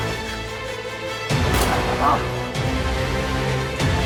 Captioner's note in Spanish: Disparos